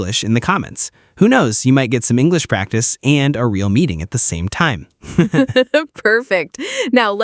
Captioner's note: laughs